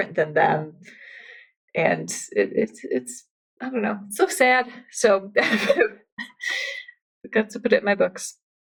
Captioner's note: laughs